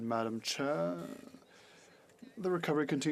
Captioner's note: speaking French